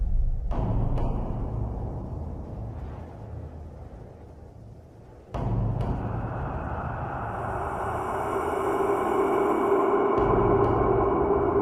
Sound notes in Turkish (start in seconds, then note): 7.3 ürkütücü sesler